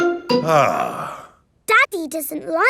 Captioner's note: sighs